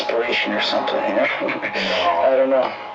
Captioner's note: chuckles